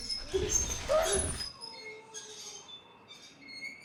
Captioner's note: wheelchair squeaking